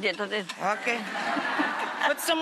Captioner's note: audience laughing